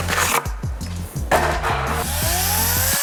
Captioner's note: cover thuds; chainsaw whirring